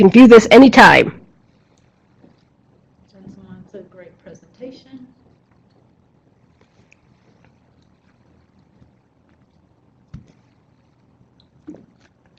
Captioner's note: silence